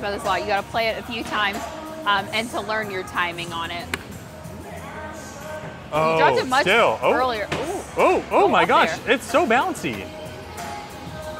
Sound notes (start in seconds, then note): 7.6 ball thuds